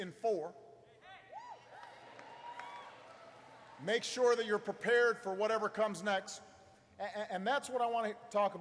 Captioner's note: applause